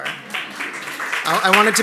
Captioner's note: applause